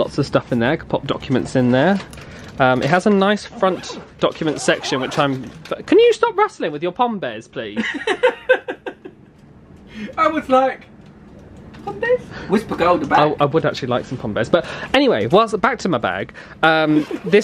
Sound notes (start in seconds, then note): 5.3 packaging rustling; 7.7 laughing